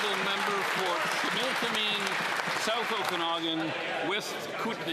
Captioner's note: some Applause